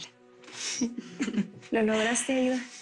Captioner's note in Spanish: Risas